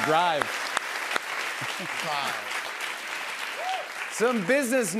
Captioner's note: applause